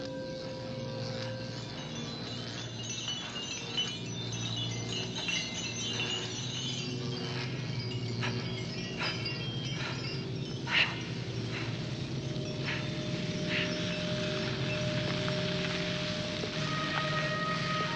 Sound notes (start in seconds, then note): 1.8 crystals tinkling